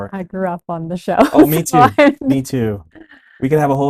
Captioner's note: laughs